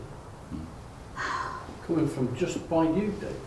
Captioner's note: gasps